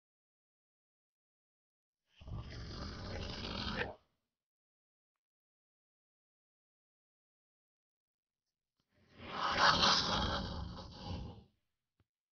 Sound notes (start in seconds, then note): 0.0 sound of monster